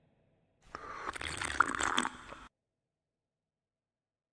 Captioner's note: slurping